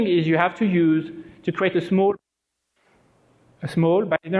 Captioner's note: break in audio